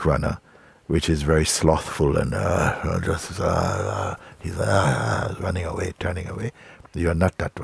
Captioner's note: slow run and growl